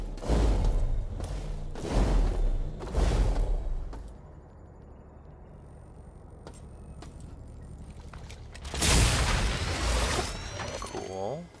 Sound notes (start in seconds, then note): 0.1 footsteps